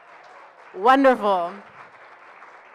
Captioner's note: applause